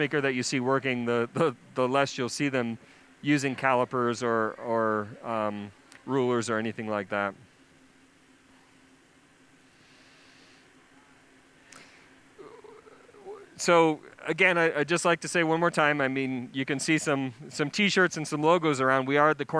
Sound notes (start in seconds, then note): 7.3 pause